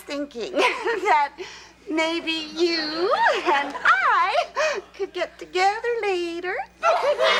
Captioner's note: laughs; laughs; audience laughs